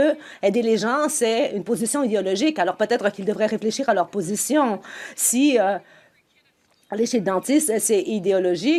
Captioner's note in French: voix de l'interprète